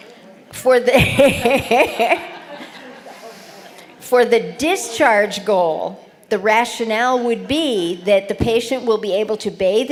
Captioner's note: laughter